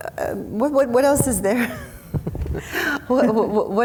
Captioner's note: laughs